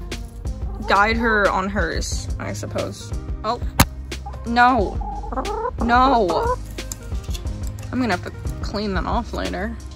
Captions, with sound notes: Guide her on hers, I suppose. [chicken noises] Oh- [*thunk*] No! [pleading chicken noise] No! I'm going to have to clean that off later...